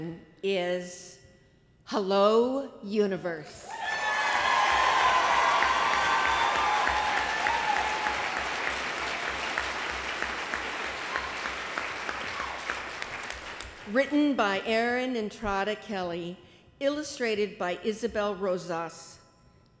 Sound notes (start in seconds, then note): 3.6 applause